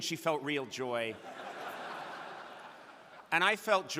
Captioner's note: crowd laughing